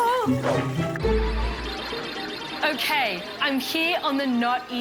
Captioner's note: electronic trilling